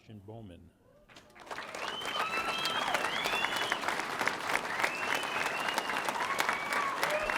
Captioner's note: audience applauding; audience cheering